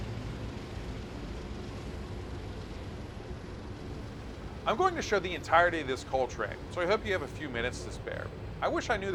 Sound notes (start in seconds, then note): 4.0 wind blowing